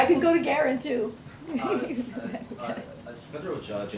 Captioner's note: laughs